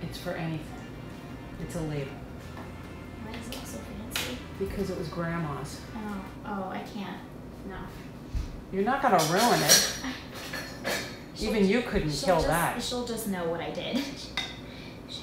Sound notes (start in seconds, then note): none